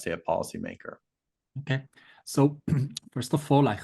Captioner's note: cough